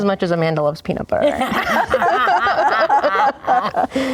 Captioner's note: laughing